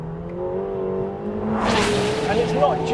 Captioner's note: car revving